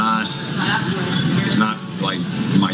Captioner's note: none